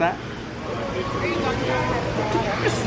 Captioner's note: indistinct chatters